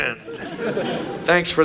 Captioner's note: audience laughs